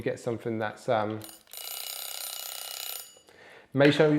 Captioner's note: egg timer buzzes